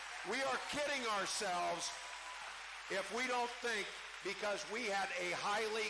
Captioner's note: cheering